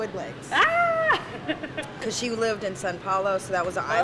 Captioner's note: laugh